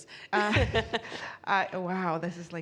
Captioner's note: laughing